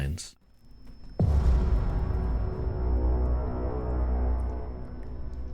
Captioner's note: dramatic title card sound effect